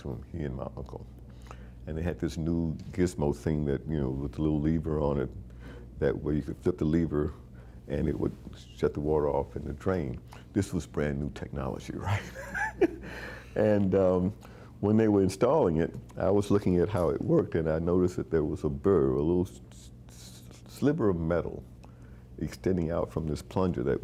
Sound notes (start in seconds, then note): 12.0 chuckling